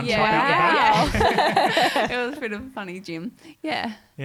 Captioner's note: all laughing